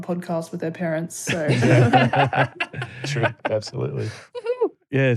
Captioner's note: laughter